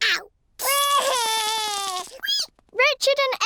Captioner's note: cries